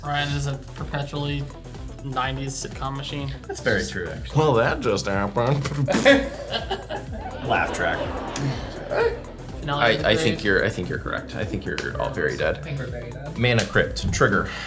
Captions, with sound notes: - Ryan is a perpetually, nineties sitcom machine. - That's very true actually. - Well, that just happened. (blows raspberry) Laugh track. I think you're correct. I think you're all very dead. - I think we're very dead. - Manna Crypt, trigger.